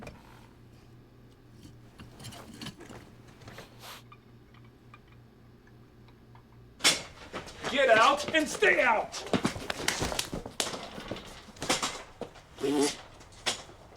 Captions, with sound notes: Get out and stay out! [thudding] [Duke blows raspberry]